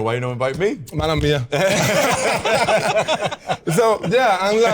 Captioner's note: all laugh